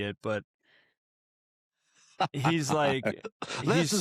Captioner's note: laughter